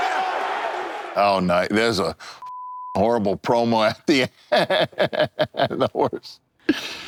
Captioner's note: beep